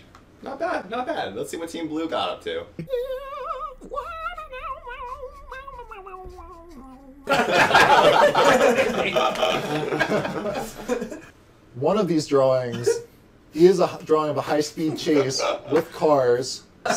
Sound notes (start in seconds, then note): 7.2 laughter